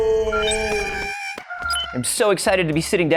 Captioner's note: Porg sounds